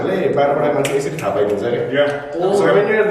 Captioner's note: snap snap